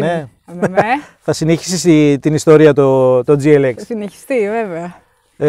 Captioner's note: chuckle